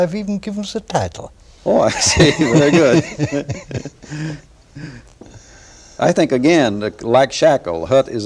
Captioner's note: laughter